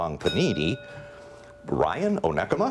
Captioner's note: bell ringing